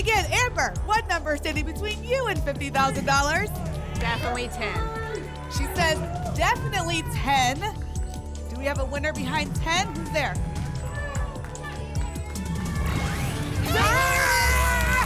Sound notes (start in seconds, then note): 10.6 cheering; 14.8 applause and cheering